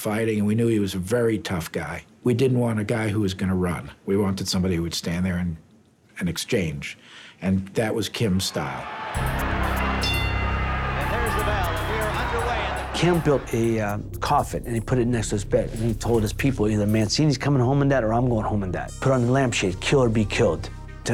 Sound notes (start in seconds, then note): 8.4 cheering; 9.2 bell dings